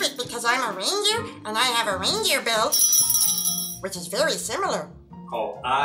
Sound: rings his bell

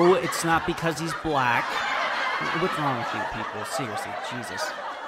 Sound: audience chuckle; audience laughter; laughter intensifies

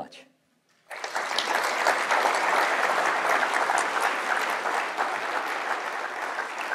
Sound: applause

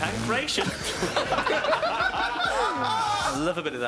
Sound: blows raspberries; laughing

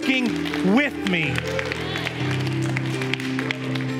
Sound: congregation applauds; gentle music

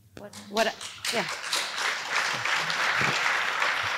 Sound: applause

